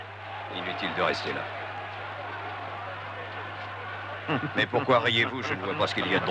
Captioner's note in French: des rires